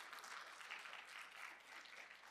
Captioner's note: applause